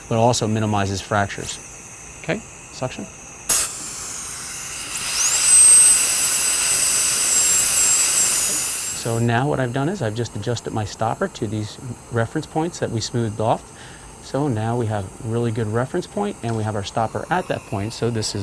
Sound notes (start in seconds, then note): 3.4 sucking air; 5.4 drill whirring